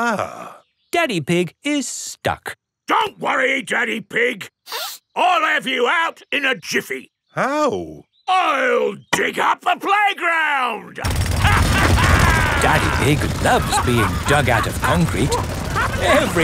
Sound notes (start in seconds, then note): 4.7 sniffs; 11.0 drilling and laughing; 16.2 all laughing